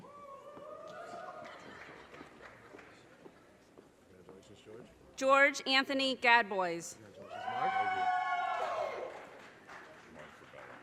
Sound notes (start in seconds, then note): 0.3 audience cheers and applause; 7.4 audience cheers and applause